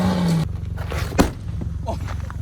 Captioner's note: smack